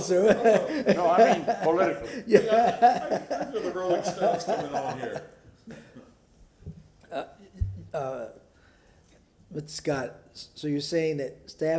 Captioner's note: laughter